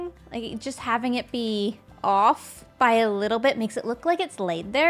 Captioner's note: none